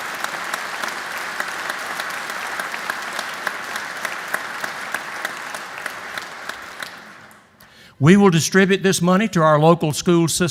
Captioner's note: applause